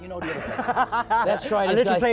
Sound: laughs

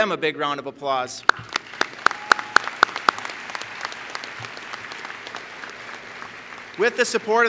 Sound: applause

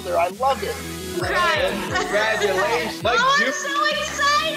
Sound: people cheering

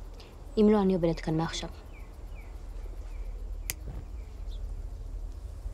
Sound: none

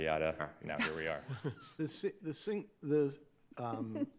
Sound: laughter

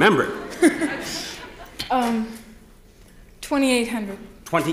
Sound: audience laughs; laughs

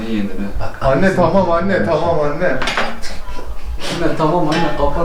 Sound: on the phone

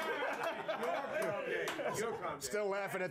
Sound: laughter

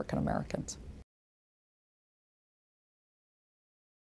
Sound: silence

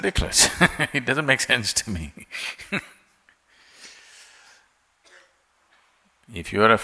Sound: laughs; laughs

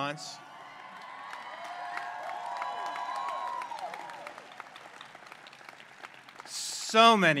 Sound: applause and cheers

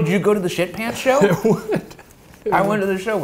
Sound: laughing

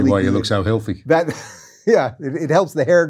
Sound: laughs

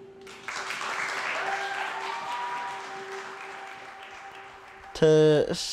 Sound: crowd applauding and cheering

